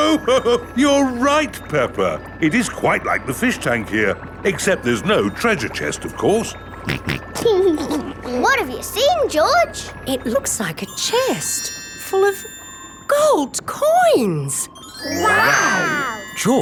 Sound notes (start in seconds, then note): 0.0 laughs; 6.8 snorts and laughs